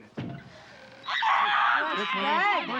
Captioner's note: screaming